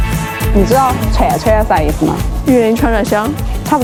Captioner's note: sichuan accent